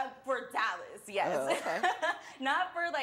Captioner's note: chuckles